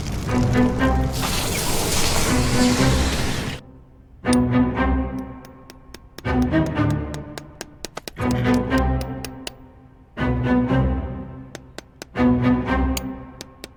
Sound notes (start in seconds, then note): 0.2 cinematic music; 4.1 clanking sound